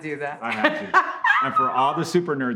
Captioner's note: laughs